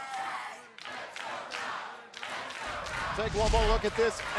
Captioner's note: fans chanting